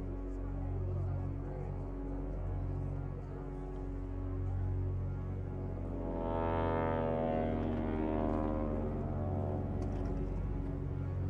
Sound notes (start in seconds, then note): 6.3 plane engines roaring